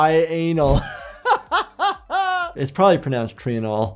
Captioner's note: laughs